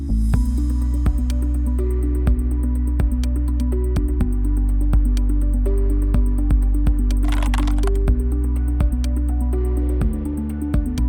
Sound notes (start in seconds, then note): 0.1 downtempo music; 7.2 keyboard clicking